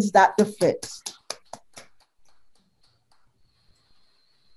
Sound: group applauds

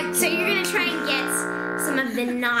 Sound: boat horn

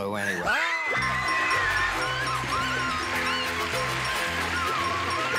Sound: screaming; bell dinging

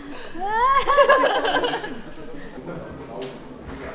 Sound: just laughing

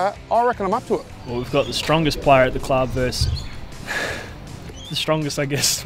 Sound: laughs

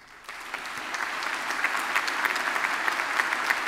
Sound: applause

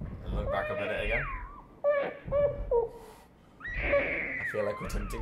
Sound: baby crying

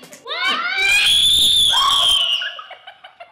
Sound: ear piercing scream; laughter

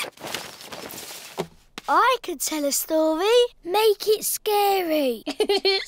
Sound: giggling

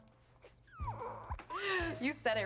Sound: Rufus squeaking

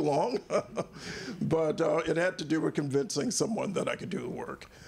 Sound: laughs

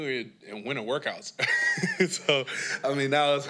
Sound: laughs

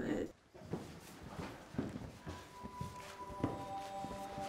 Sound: footsteps

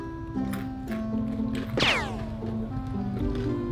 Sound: crunching

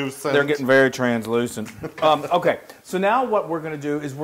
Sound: laugh

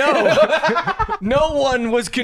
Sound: laughs

